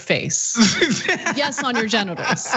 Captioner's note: laugh